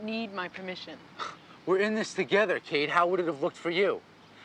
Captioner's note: scoffs